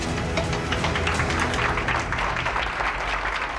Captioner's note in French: applaudissements